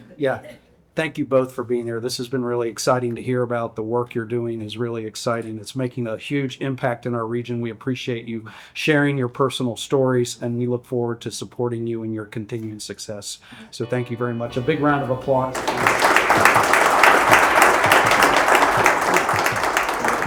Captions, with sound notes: Yeah, thank you both for being here. This has been really exciting to hear about the work you're doing is really exciting. It's making a huge impact in our region. We appreciate you sharing your personal stories and we look forward to supporting you and your continued success. much. A big round of applause. (Audience Applauding)